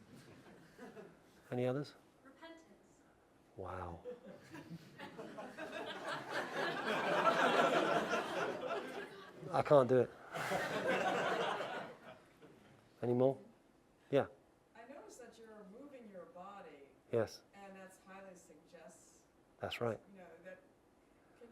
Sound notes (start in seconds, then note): 0.3 laugh; 4.0 laugh